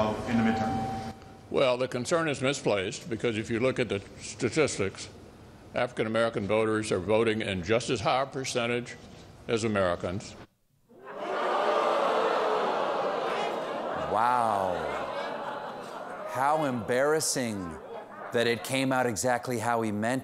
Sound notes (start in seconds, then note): 13.8 audience reacts